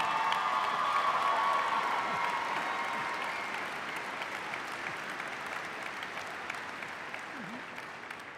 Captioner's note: cheers and applause